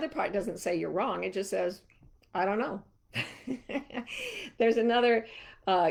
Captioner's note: chuckling